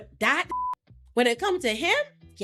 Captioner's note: beep